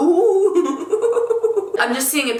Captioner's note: laughing